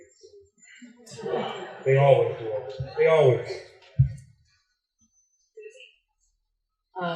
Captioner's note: laughter